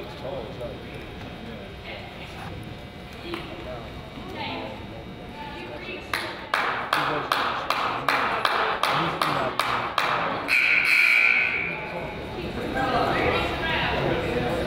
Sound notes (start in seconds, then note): 5.9 coach yells; 8.2 coach claps; 10.4 buzzer honks